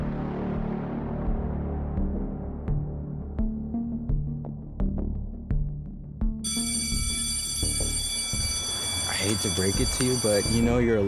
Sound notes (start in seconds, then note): 0.7 tense music continues; 6.4 school bell ringing